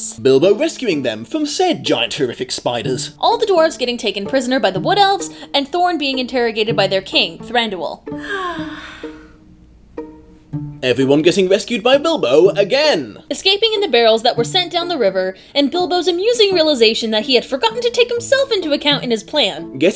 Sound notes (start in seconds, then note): 8.1 sighs blissfully